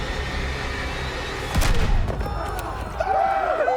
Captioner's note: gunshot cracks; warriors cheering